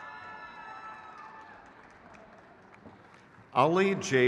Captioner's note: crowd cheers